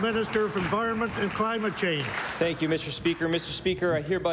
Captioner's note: applause